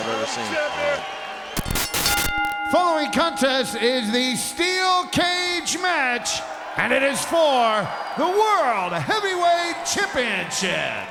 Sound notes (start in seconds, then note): 1.6 bell dings